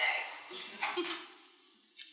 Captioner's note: laughs